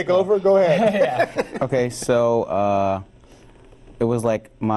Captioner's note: laughs